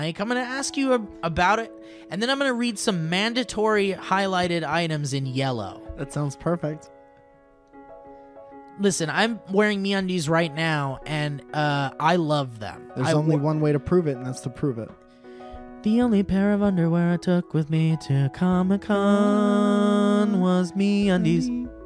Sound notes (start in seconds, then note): none